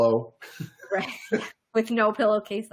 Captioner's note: laughing